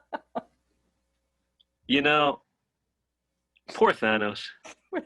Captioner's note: laughing